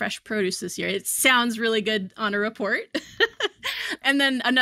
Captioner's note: chuckles